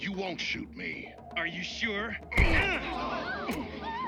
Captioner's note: GROANS</i>; all gasp